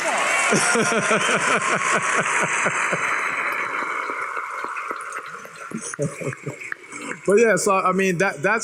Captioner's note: applause